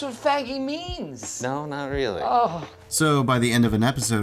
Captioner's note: groans